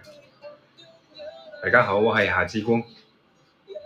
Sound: Cantonese

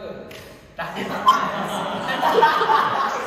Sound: bursting out laughing

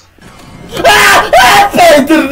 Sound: screams

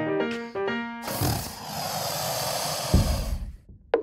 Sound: crocodile hissing

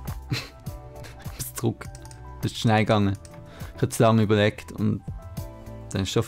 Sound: click

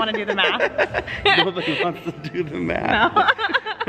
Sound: laughs

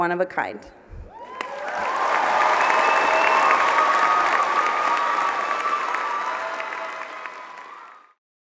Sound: applause

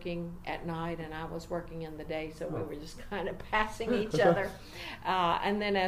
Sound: humorously now

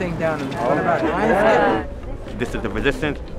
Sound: cheers of assent

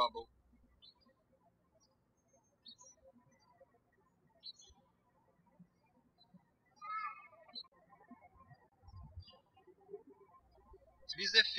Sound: birds chirping

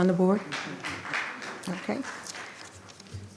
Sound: attendees clapping

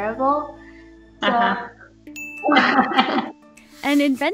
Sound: laughing

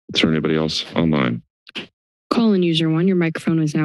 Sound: silence

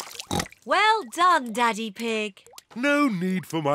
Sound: oinks

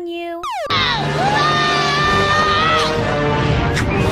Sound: yells

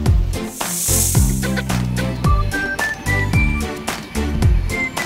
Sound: snake hissing; upbeat music

